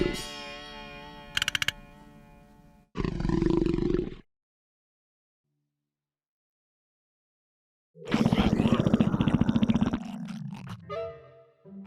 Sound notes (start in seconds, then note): 3.0 growling continues